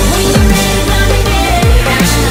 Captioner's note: Underdog brakes hard